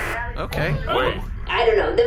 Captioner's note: TV turns on